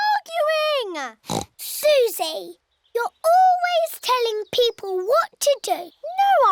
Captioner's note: oinks